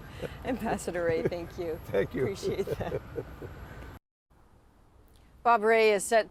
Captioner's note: laughter